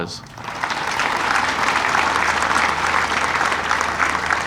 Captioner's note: audience applauding